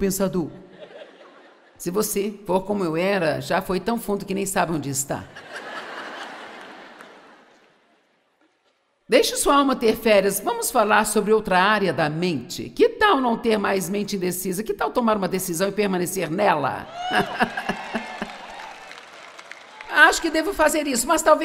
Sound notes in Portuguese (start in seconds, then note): 7.4 audiência ri; 16.9 audiência aplaude